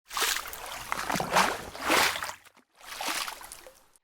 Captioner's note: water splashing